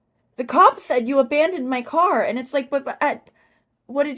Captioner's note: stammering